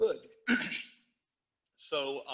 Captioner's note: teacher clears throat